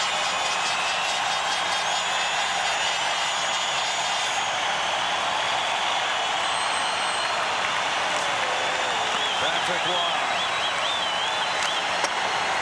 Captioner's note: cheers and applause